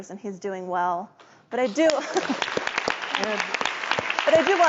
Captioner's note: applause